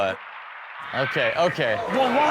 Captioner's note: audience groans